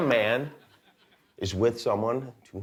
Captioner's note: laughter